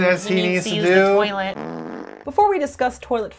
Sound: fart soundtrack

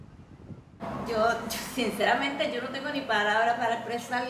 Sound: speaking Spanish

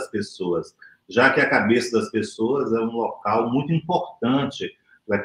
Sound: speaks portuguese

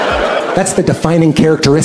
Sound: laughter

